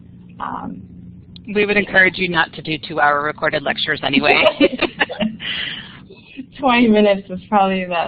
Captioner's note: laughter